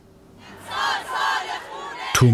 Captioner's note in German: Protestrufe